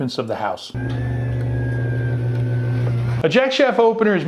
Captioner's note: belt drive running quietly